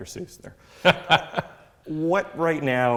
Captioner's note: laughs